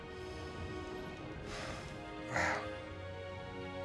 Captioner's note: John sighing